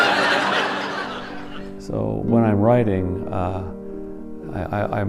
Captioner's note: laughter